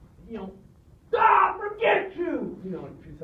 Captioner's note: yells